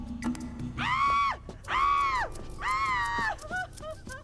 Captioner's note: Roxanne screaming